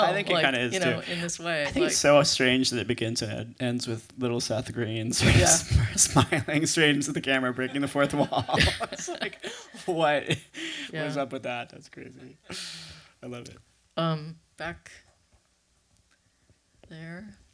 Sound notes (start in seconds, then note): 7.5 laughing